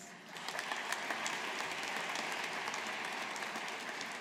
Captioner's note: audience applauding